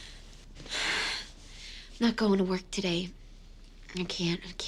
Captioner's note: exhales